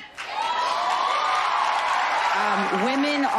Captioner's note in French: applause